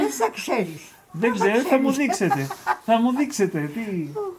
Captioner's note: laughing